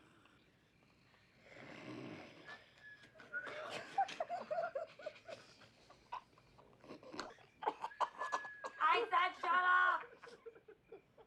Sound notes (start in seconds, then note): 3.2 laughter